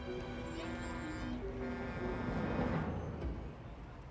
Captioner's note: horn honking